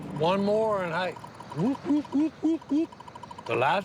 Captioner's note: imitating siren